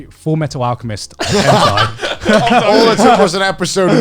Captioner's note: all laughing